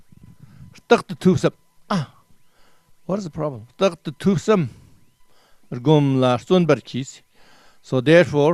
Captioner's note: tibetan